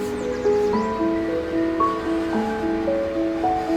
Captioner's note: journal sliding; birds chirping; calming piano music